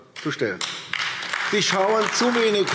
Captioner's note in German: Beifall AfD